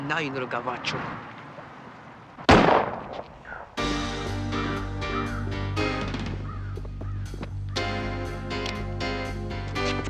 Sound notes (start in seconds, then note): 0.4 speaking in foreign language; 2.4 gun firing; 3.8 dramatic music